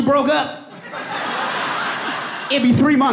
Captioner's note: audience laughing and applauding